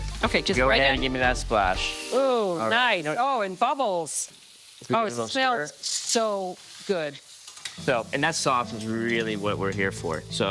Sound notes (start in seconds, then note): 2.2 pan sizzles